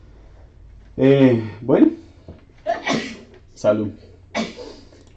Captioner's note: sneeze from afar